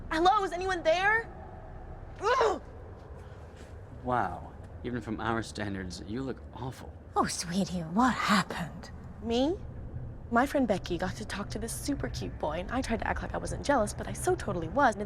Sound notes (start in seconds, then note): 2.5 angry grunt